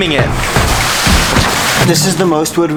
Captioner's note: wood scraping